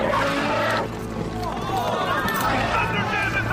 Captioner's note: crowd groans